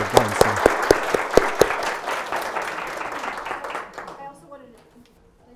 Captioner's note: audience applauding